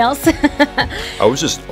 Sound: laughs

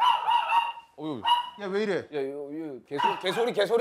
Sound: barking

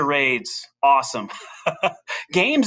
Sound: laughs

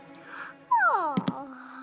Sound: yawn

